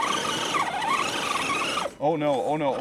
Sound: engine whining

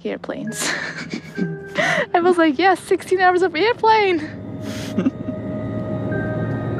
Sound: laughs; laughs

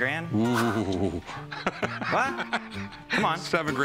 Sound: laughs

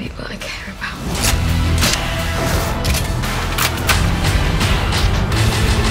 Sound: metallic clicking

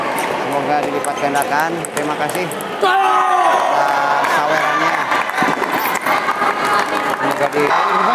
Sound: applause

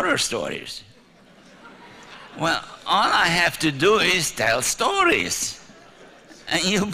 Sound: laughter

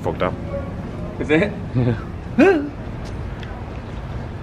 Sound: exclaims

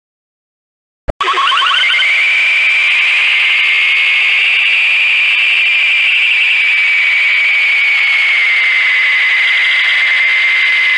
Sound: screaming

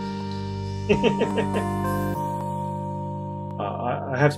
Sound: laughs

